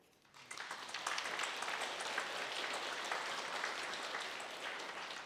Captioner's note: audience applauds